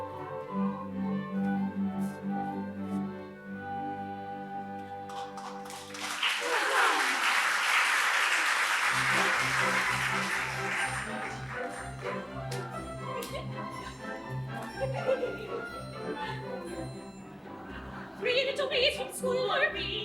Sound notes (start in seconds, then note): 6.3 women sigh; 7.5 applause